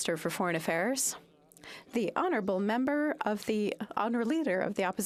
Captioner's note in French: voix de l'interprète